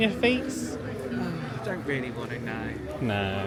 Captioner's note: sighs